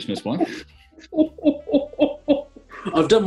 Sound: chortling

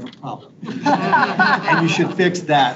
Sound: people laugh

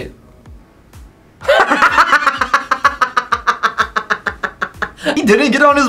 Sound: laughs

